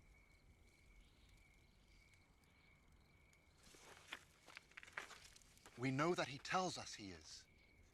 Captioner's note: birds chirping